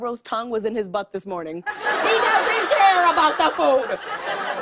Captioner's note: laughter